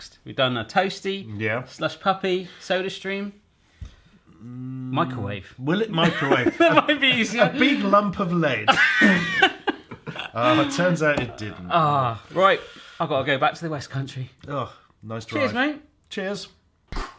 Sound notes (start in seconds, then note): 8.6 laughs